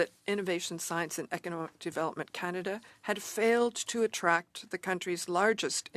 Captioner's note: speaking French